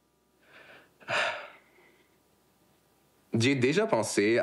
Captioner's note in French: soupir